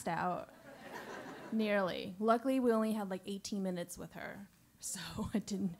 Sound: laugh

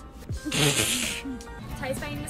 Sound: laughing

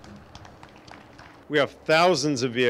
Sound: crowd applauds

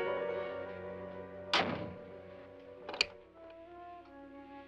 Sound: door closes; ominous music

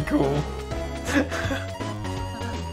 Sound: more laughter

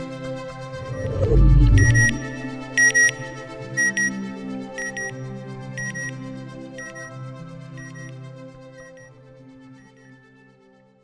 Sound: satellite beeping

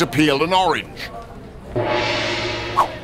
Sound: whoosh sound, swipe sound

